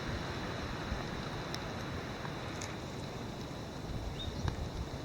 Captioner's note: rain falling